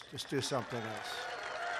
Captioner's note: applause